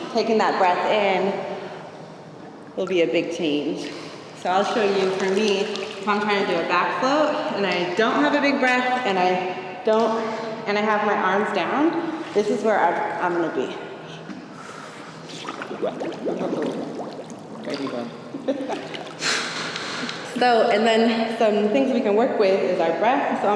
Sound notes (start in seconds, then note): 15.2 bubbles gurgling